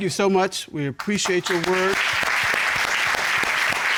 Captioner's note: audience applauds